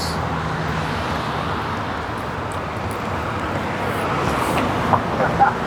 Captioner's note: cars driving past